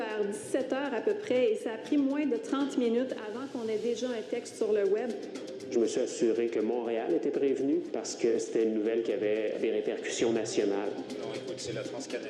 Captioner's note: speaking french